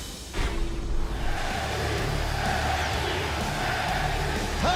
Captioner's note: fans chanting